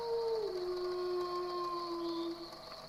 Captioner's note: wolf howls